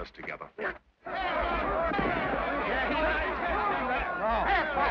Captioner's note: men shout